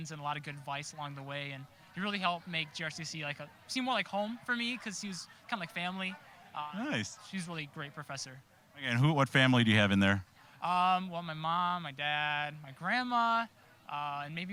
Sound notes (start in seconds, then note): none